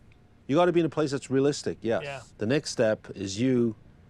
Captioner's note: none